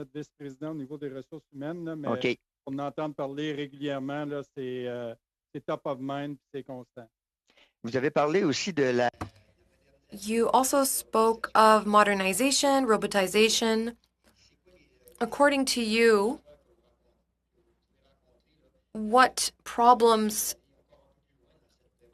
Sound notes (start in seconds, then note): 7.0 speaking French